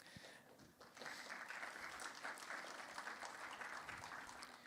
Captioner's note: applause